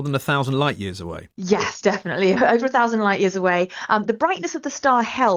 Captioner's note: laughs